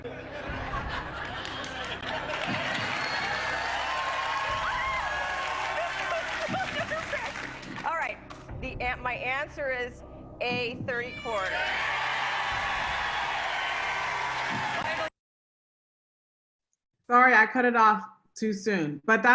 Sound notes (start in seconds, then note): 0.0 audience laughing; 2.9 audience cheering and clapping; 11.0 audience cheering